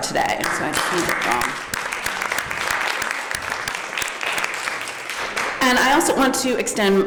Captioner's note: applause